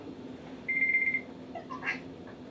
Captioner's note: alarm Rings